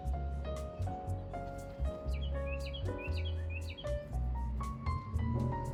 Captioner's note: birds chirp in background